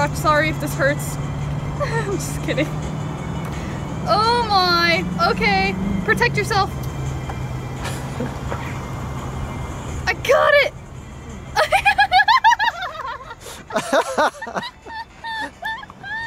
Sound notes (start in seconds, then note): 1.7 laughs; 7.9 laughs; 11.6 laughs